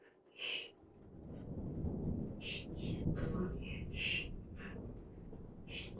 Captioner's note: Jessie breathing heavily and speaking indistinctly